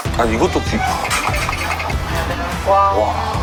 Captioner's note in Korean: 긁긁